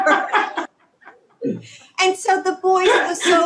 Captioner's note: laughter